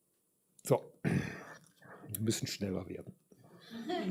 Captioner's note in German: räuspern